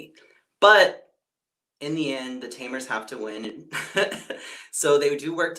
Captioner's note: laughs